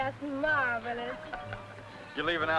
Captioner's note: laughing